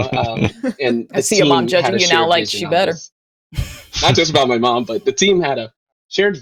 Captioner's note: laughter